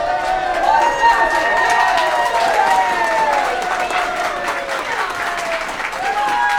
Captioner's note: audience drum roll; audience cheers